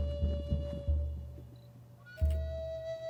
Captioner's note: still camera beep click